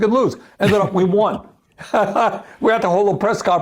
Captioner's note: laughs